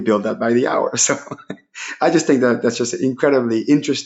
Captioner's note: laughing